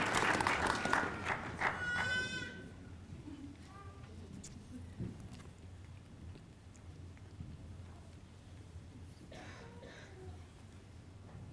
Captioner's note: applause